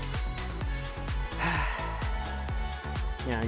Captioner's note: sighs